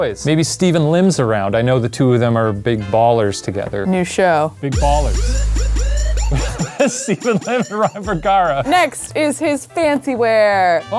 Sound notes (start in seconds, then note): 4.7 upbeat music; 6.1 laughs